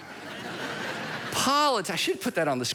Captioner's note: congregation chuckles